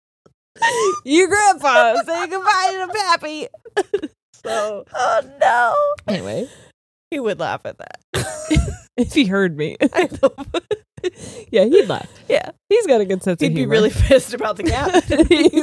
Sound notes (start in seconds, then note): 1.6 both laughing; 7.7 laughs; 9.9 both laughing